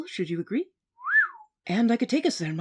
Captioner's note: whistles